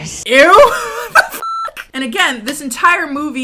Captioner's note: laughs; beep